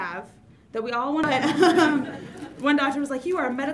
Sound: audience laughs

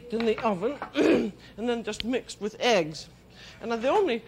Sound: clears throat

